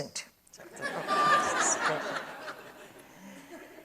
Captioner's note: audience laughs